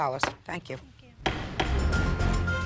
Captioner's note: gavel banging; dramatic music